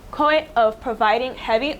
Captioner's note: none